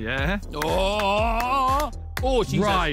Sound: clapping

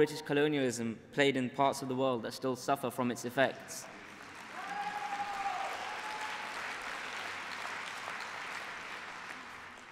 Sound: applause

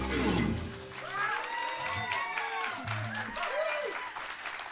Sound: cheers and applause

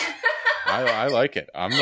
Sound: laugh

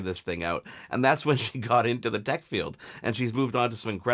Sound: chuckling

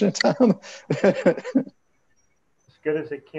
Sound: chuckling

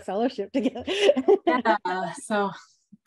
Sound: laughs

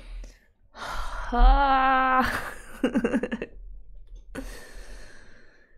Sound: laughs

